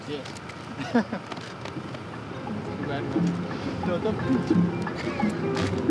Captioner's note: laughs